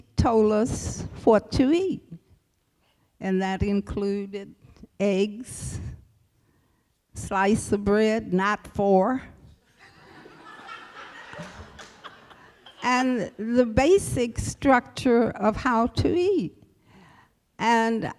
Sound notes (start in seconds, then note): 9.7 laughter